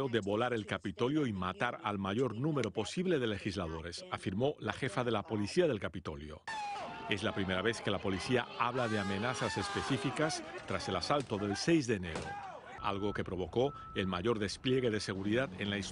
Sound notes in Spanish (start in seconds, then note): 5.1 habla en ingés